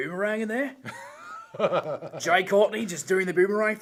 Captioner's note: laughs